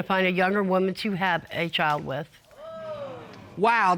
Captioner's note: audience exclaiming